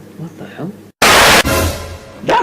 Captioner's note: static